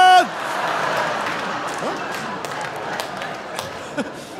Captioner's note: audience laughing; laughing